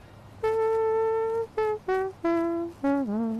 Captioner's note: imitating trumpet playing